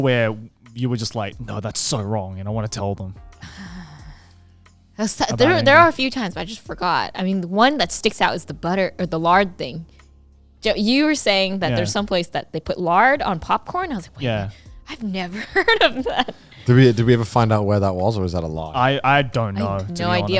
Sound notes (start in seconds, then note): 15.1 laughs